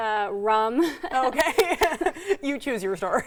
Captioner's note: laughing